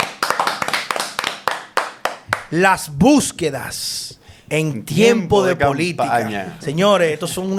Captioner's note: applause